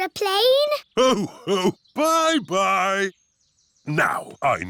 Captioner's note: laughs